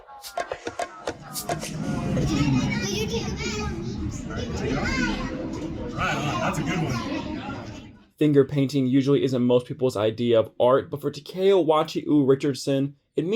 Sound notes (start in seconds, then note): 0.0 funky music; 1.7 children shout